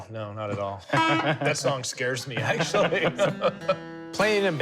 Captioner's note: laughs